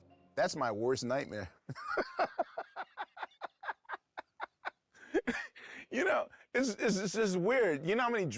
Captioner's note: laughs